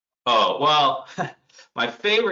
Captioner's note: laughs